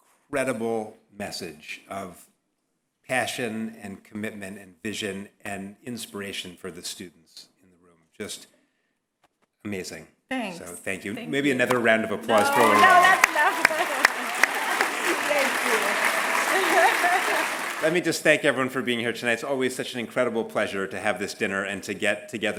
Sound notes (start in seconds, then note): 12.3 laugh; 15.9 applause